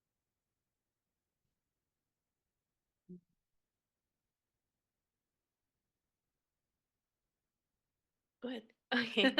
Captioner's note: audio cuts out